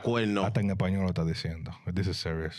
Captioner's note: speaking In Foreign Language